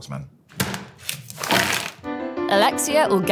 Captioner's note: fries pack thudding; plastic crinkling